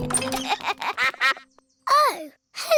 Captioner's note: quacks